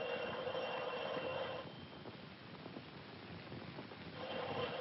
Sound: phone ringing

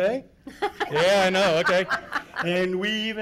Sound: laughing

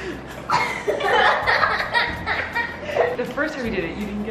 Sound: kids laughing

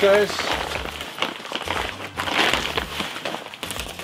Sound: paper crinkling

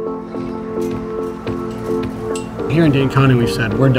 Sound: upbeat music; gate rattling

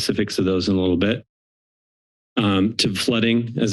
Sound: silence

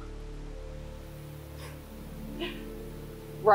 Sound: laughs

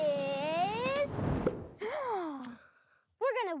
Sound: gasps

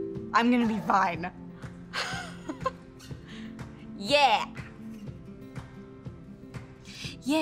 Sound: chuckling

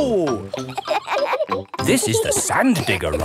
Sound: kids laughing

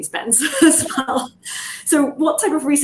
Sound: chuckles

